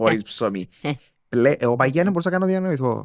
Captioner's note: she laughs